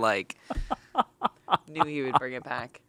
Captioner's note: laughs